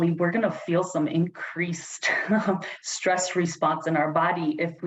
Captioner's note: laughter